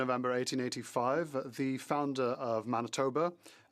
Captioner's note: speaking French